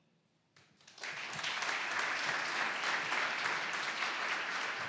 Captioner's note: audience clapping